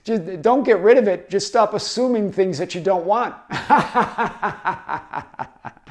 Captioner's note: laughing